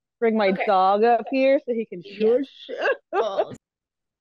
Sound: laughs

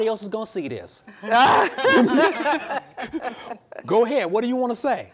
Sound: women laugh

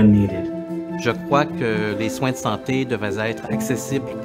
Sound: speaking french

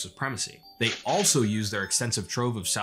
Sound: ca-ching

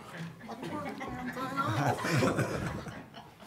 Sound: chuckles

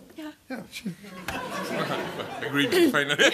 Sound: laughter

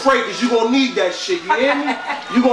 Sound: laughing sound

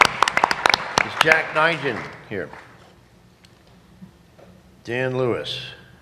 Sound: applause

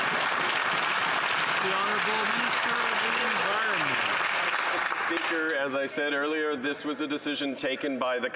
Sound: some Applause

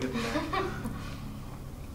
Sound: laughs

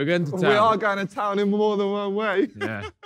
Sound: laughing

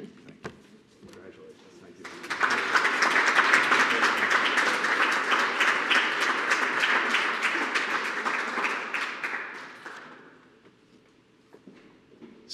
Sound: applause

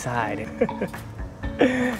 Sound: chuckles

